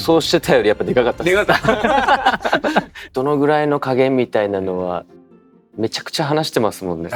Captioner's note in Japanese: 笑い